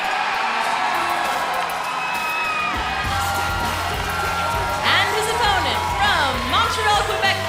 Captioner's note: crowd cheering